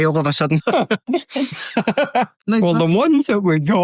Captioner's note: laughs